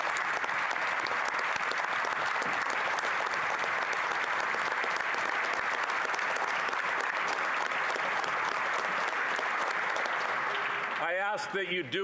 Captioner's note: applause